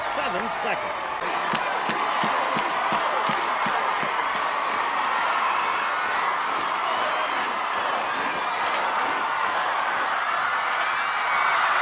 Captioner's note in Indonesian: penonton bersorak